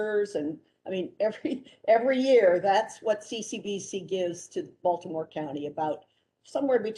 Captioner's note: laughter